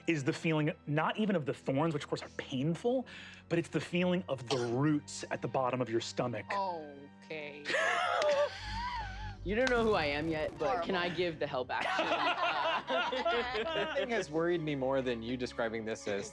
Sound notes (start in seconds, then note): 7.6 laughs; 11.8 laugh